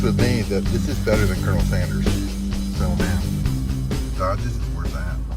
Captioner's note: speaks faintly